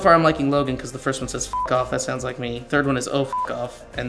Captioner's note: beep